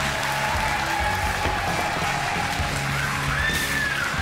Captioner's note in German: Jubel